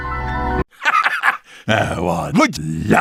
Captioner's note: laughter